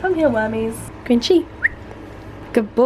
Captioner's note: whistle